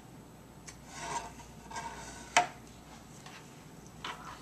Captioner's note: scratching sound